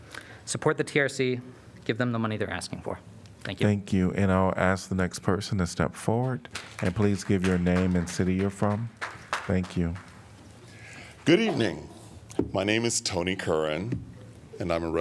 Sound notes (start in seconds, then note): 6.2 applause